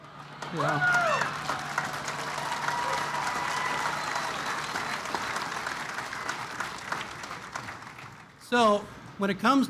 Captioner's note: applause